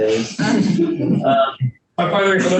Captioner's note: panelists laughing